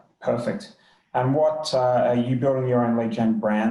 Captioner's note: murmurs